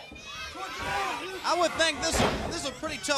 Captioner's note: crowd chatter